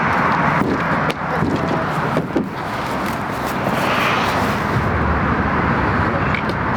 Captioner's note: traffic droning; metal thumping